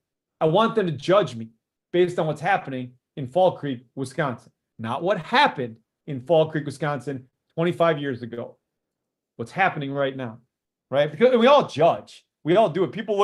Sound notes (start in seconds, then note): none